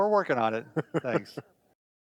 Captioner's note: laughs